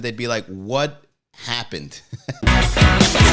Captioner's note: laughing